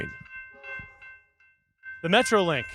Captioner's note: train horn sounding